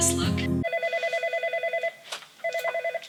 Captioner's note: phone rings